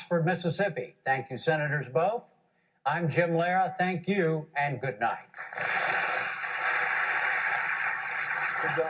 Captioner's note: applause